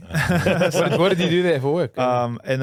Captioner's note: laughing